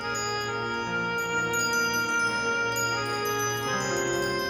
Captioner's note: wind chimes stirring